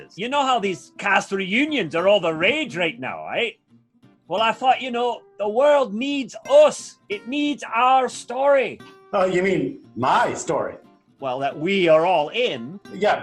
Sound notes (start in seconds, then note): none